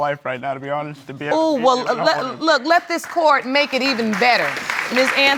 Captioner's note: audience applauding